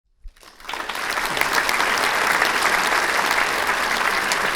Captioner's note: audience applauding